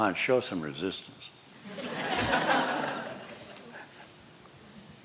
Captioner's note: laughter